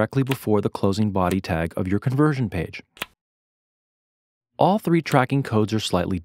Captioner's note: click